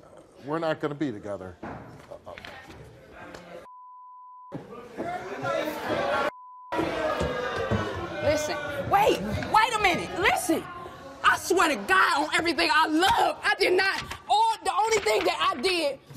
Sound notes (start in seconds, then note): 3.6 beep; 5.1 audience jeers